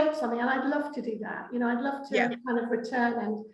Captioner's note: laughing